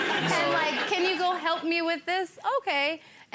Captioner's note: people laughing